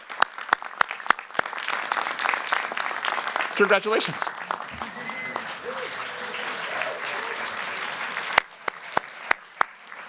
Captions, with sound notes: Congratulations. [CHEERING]